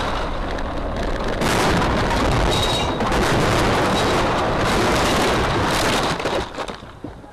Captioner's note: loud crashing